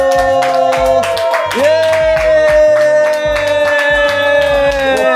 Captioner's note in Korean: 환호